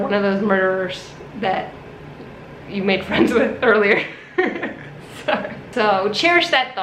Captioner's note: laughs